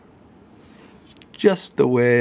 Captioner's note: breathes deeply